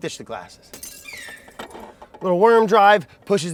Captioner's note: glass shatters